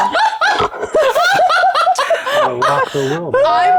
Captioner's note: players laughing